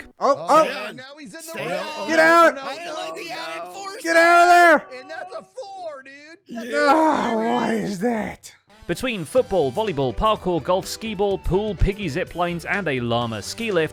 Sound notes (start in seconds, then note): 1.4 group fussing; 6.5 sighs